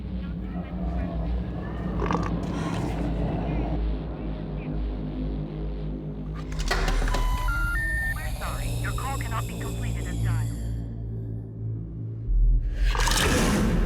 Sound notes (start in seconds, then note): 0.0 growling; 6.4 phone beeps